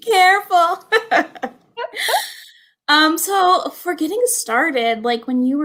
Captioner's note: laughter